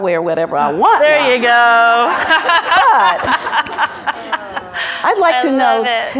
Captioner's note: laughs